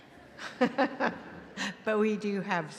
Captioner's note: laughing